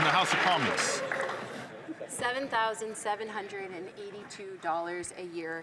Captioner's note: some Applause